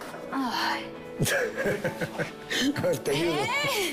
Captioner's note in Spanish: Risas